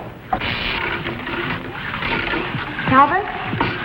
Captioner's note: electrical whirring and thumping; short electrical buzzing